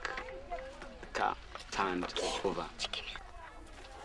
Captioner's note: children whispering